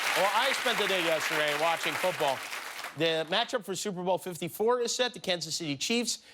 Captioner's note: applause